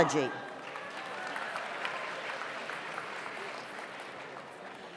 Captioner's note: audience applauds